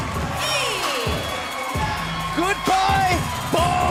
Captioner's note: bell